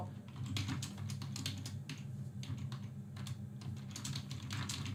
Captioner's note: keyboard clicks